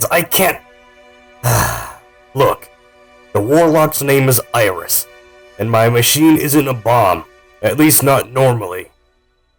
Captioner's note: sighs